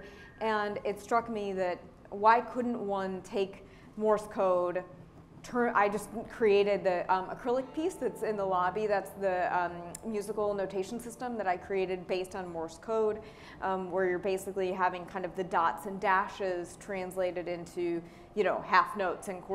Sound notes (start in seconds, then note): none